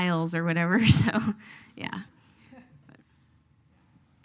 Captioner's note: laughs